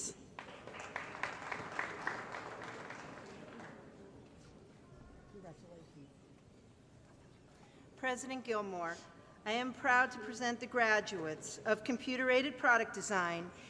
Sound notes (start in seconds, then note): 0.3 applause; 1.1 crowd Noise